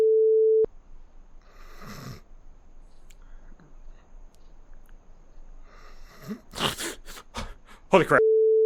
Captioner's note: lightly snoring and wake with a start